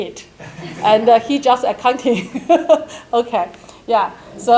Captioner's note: laughs